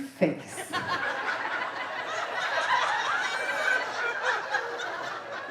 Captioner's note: audience laughing